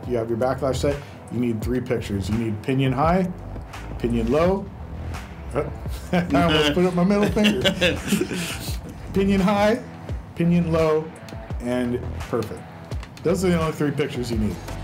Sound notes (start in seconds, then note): 7.1 chuckles; 7.8 both laugh